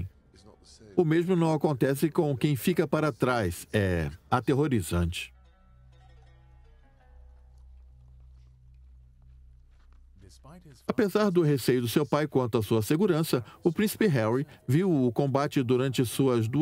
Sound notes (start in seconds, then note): 5.1 slow string music; 10.0 voiceover